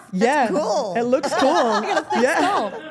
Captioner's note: Stephanie laughing